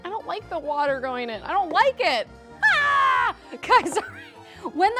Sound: screams

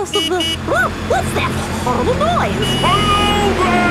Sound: honking

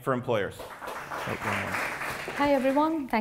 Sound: applause

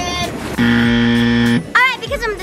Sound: buzzer buzzes

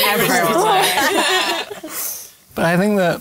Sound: laughter

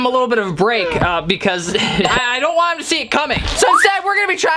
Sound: laughs

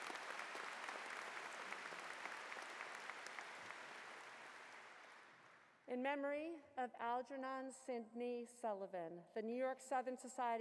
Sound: applause

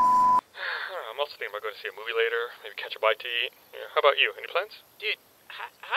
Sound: sigh

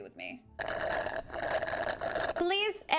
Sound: loud slurping

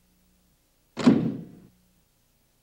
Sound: thump

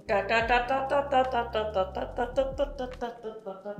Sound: chanting

